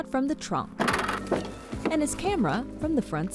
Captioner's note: trunk clatters